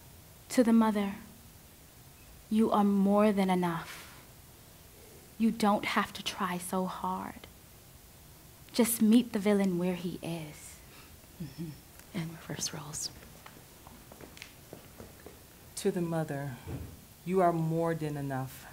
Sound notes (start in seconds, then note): 12.4 shuffling